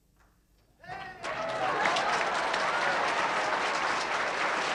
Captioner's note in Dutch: publiek applaudisseert